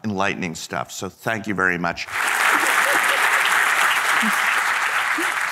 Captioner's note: audience applauding